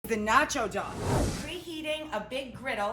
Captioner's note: whooshing